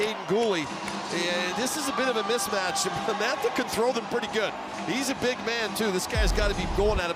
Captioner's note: cheering